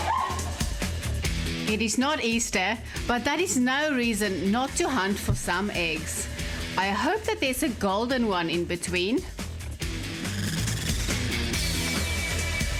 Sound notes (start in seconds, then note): 1.9 narrating